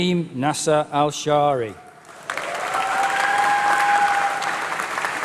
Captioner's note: applause